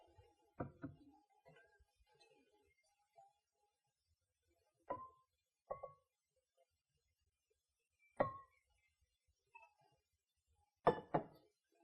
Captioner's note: silence